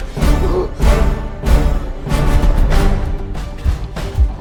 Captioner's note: groaning